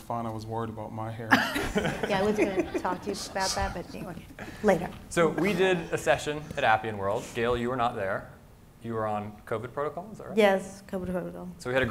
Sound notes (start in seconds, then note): 1.3 audience laughing